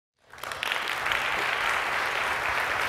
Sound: applause

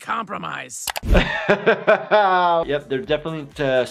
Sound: laughing

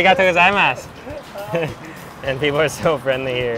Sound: speaking in foreign language; chuckle

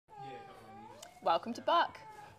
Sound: baby cries

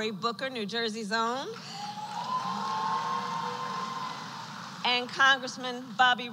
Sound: applause

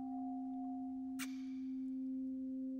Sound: kiss

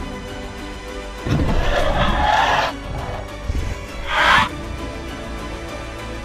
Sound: Ares Low Rumble

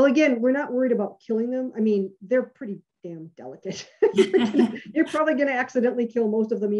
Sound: laughs

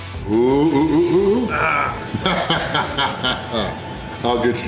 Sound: laughter

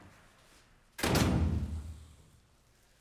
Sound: slamming door

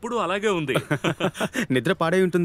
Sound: laughs

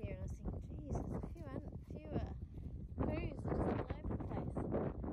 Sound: continued wind noise and barely audible voice

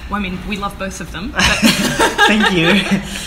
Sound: both laughing

